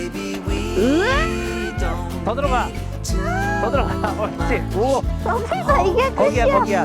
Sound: sounds of cheer

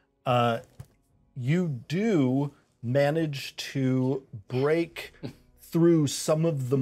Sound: speaker chuckles

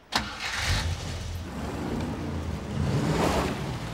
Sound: engine starts, revs

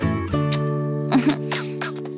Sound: kissy noise; simpers

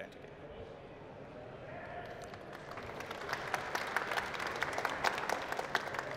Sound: applause

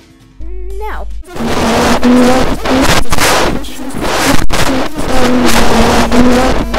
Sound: teleporting sound

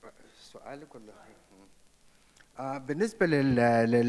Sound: speaks off microphone; speaks in foreign language

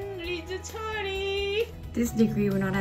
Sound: speaking in foreign language

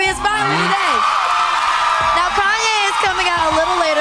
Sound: cheering

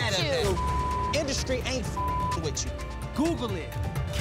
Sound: beep

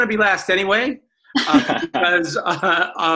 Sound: laughs

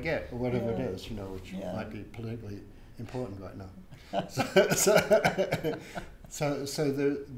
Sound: laughs

